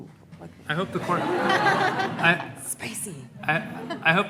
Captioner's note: audience laughing